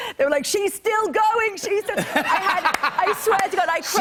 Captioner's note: laughter